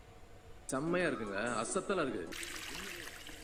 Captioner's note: soap opera being tuned into